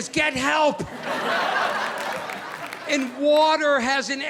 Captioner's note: audience laughing